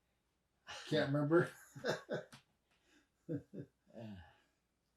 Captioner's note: chuckles